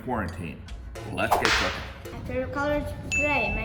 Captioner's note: whip snapping